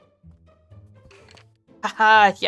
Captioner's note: skeleton noise